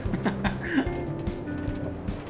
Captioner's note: laughs